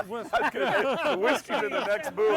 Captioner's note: all laughing